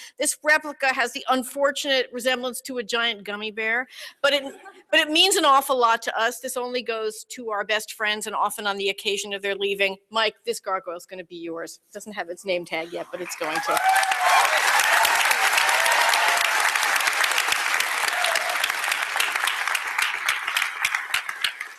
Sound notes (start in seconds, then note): 14.1 applause, cheering